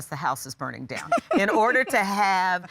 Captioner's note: laughs